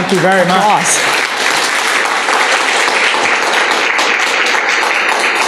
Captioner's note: applause